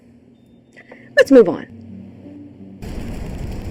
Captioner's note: electronic beeping